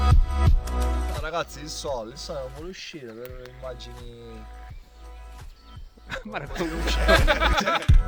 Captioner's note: laughter